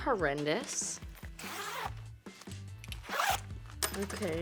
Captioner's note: zipper zipping